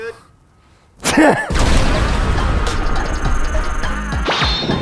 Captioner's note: laughing; upbeat music